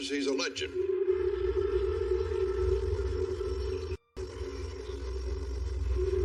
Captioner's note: alarm blariring, helicopter w whirring